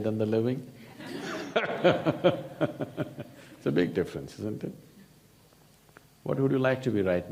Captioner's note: laughs